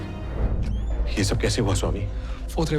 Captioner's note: door opens